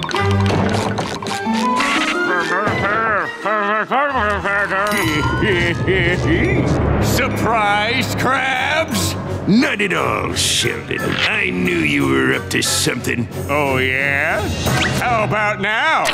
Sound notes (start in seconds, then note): 4.6 cackling